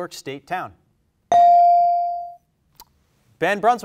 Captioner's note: bell rings